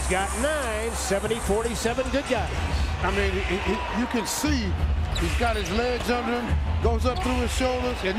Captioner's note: cheers and applause